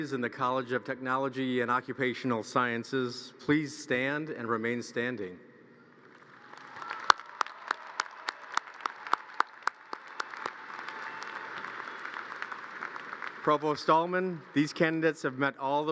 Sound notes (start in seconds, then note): 6.1 audience cheers and applause